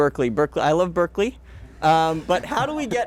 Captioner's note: all chuckling